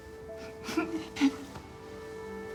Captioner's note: crying